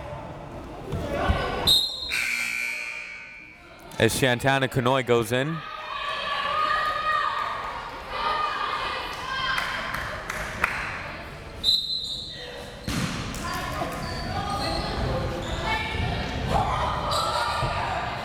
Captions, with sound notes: (whistle tweeting) (buzzer ringing) As Shantana Kanhoye goes in. (crowd members shouting) (whistle tweeting) (crowd members shouting)